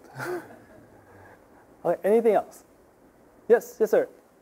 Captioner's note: audience chuckling